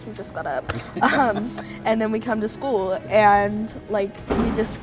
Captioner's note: laughs